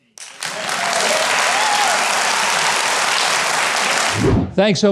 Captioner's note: audience claps and cheers